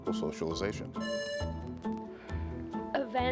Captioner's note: buzzer buzzing